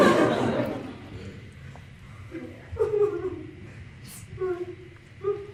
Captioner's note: dramatic sobbing